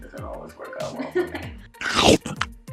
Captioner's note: chomping sound; laughing